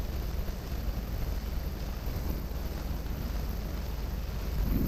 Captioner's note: sounds of water